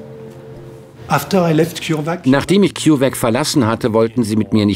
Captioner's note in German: englisch